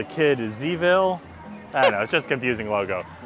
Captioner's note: laughs